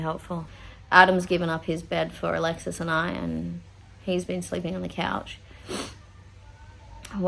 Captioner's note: sniffs